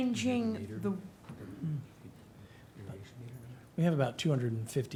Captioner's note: speaking faintly